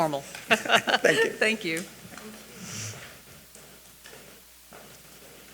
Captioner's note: chuckling